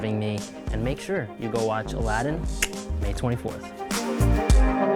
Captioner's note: clicks; upbeat music